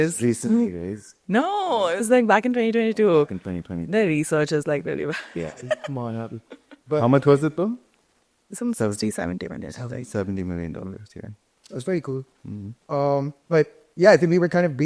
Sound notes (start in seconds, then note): 5.2 chuckles